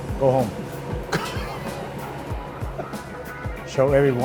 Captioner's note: laughing